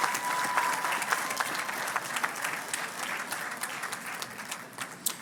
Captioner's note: crowd cheers and claps